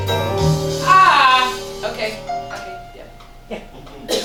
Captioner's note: STAN screams